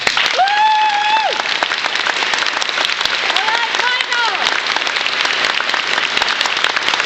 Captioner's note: applause